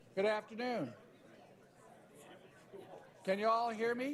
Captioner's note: background chatter